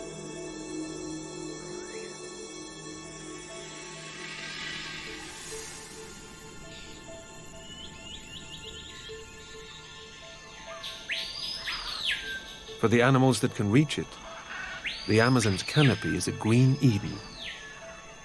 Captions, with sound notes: (birds chirping) (animal chatter) For the animals that can reach it the Amazons canopy is a green Eden.